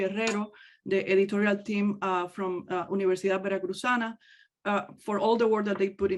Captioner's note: speaks in native language